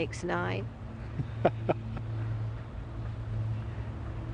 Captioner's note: laughs